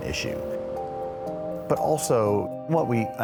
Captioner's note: traffic rushing